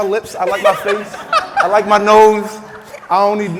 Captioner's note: laughing